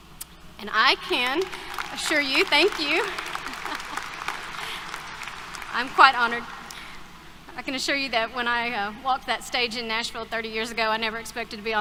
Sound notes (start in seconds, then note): 2.1 brief laughter; 3.5 applause